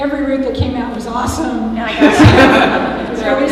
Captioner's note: laughter